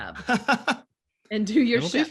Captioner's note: laughs